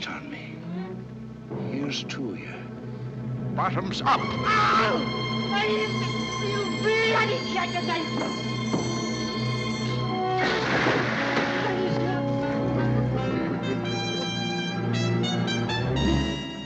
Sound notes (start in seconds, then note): 4.2 screaming